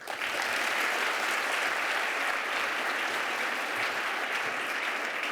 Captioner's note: applause